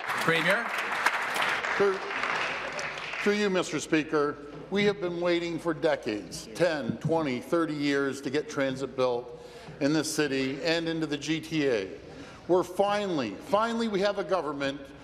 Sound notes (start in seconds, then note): 2.0 applause